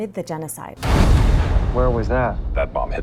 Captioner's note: explosion